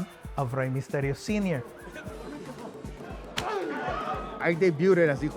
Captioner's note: grunts